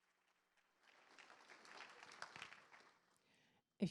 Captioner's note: applause